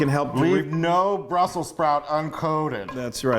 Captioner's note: laughs